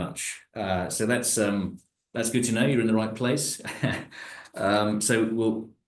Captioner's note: laughs